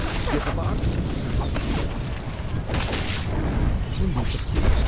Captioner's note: explosion